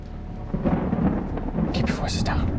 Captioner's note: thunder rumbles